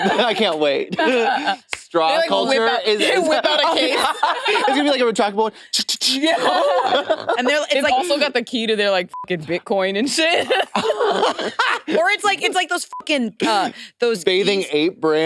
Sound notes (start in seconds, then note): 0.8 laughs; 6.1 laughs; 9.1 beep; 10.1 laughs; 12.9 beep